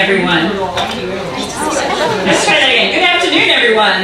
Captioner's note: audience responding